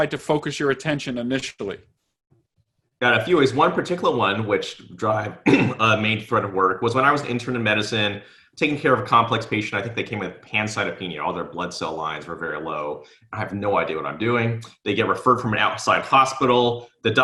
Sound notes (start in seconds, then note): 5.4 clears throat